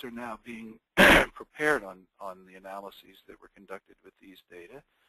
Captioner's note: coughs